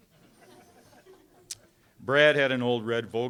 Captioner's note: audience laughing